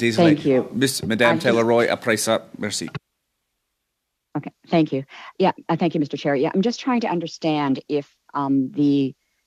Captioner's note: speaking French